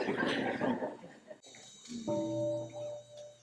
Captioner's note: laughter